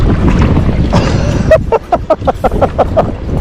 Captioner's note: laughing